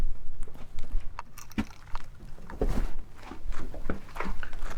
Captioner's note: stones clattering